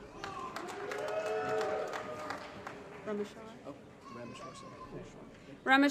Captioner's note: applause & Cheering